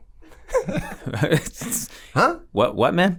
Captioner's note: all laugh